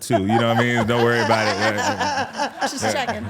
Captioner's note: laughing